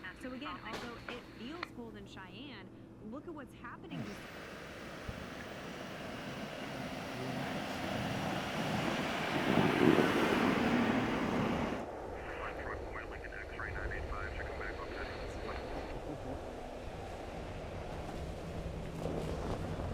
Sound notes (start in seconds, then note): 3.9 car engine softly whirring; 12.4 chattering on radio